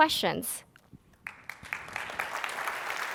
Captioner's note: applause